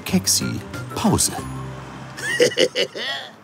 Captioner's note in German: Lacht